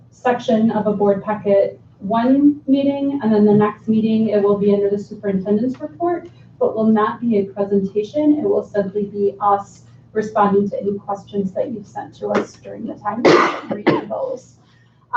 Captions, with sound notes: section of a board packet, one meeting, and in the next meeting, it'll be in the Superintendent's report, but will not be a presentation. It will simply be us responding to any questions that you've sent to us during the time (coughing drowns out speaker) goals.